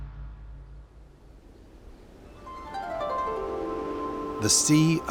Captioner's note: wind blowing; birds chirping